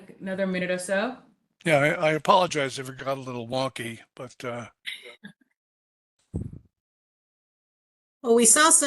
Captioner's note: laughter